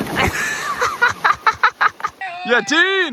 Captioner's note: laughing